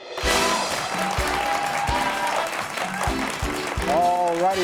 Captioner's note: crowd clapping